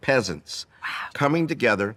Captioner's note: whispering